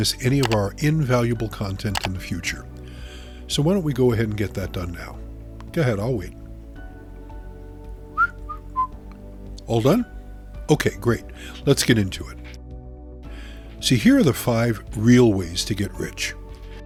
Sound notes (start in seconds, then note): 8.1 narrator whistles